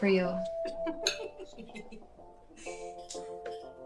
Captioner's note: woman laughing